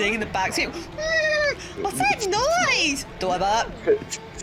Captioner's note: horse neigh